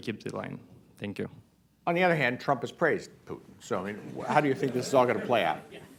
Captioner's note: laughter